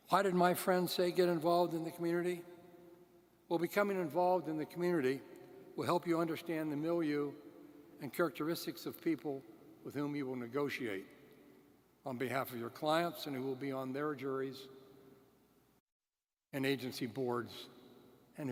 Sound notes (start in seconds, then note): none